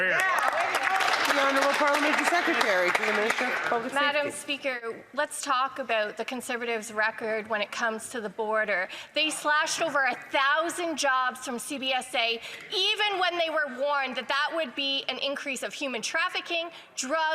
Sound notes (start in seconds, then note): 4.4 some Applause